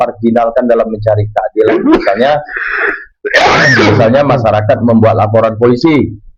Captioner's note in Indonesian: tertawa